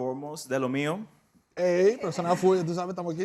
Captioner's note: speaking spanish